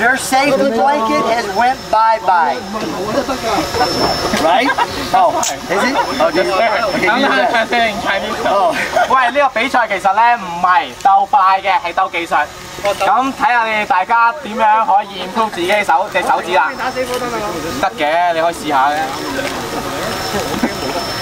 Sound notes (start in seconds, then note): 8.0 laughs; 9.6 speaking in foreign language